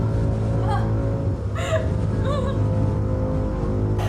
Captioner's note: woman cries